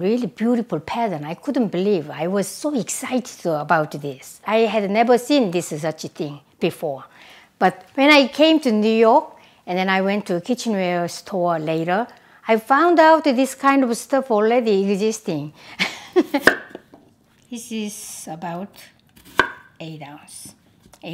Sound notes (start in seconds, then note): 15.8 laughs